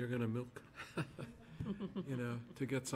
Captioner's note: laughter